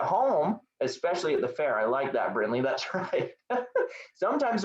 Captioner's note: laugh